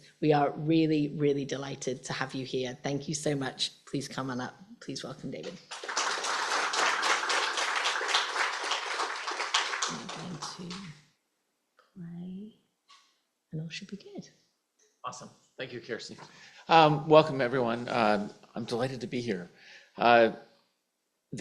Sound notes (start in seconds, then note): 5.6 applause